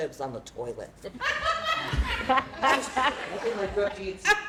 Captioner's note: laughter